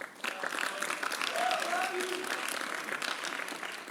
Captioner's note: applause